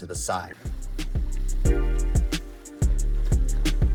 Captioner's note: water rushing